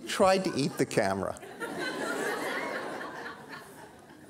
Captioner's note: audience laughter